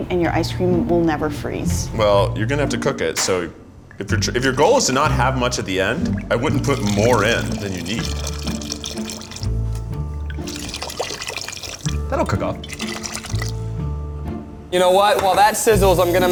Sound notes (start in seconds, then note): 8.6 liquid sloshing